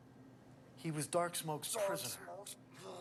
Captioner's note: grumbles